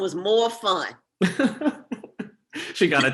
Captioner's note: laughs